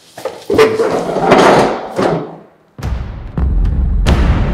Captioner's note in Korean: 의자 덜컹거리는 소리